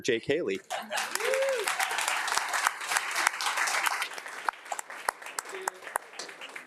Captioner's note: attendees applauding and cheering